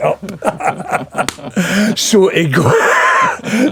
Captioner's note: laughing